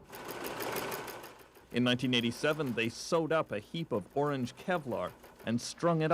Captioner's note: machine whirring